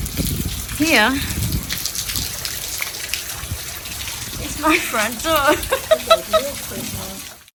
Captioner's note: laughs slightly maniacally